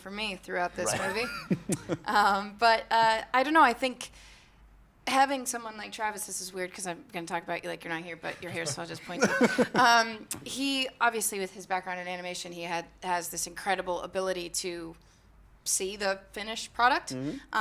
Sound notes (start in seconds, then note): 2.7 chuckles